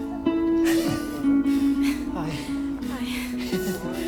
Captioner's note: chuckles